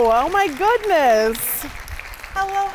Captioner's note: audience clapping